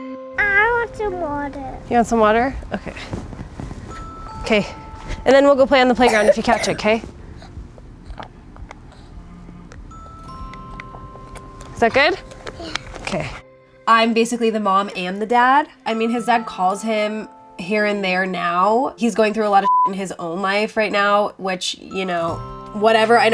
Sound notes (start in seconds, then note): 19.6 beep